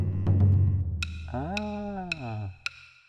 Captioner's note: sticks tapping